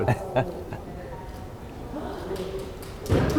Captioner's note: laughing